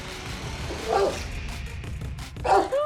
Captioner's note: music climbs; dogs bark